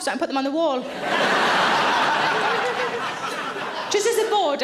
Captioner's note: audience laughing